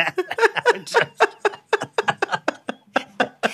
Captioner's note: laughter